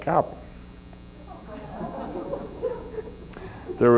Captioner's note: laughter